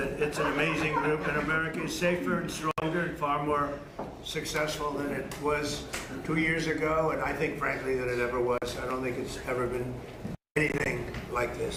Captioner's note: laughter